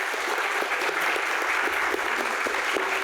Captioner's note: clapping